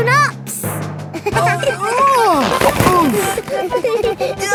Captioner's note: giggling; grunting; giggling